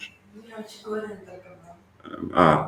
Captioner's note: talks in the background